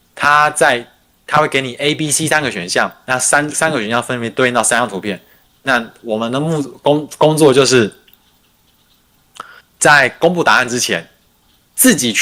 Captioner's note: non-english speech